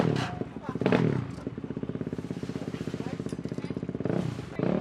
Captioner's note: engine revving